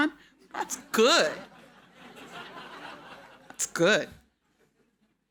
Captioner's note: audience laughing